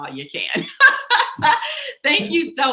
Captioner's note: laughs